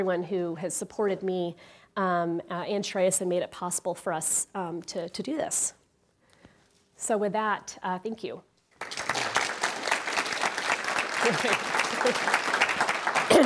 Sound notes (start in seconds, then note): 8.7 audience applauding